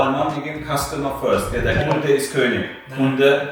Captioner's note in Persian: به زبان آلمانی